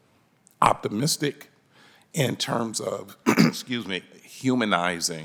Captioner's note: clears throat